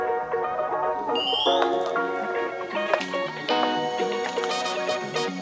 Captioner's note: someone walks over from afar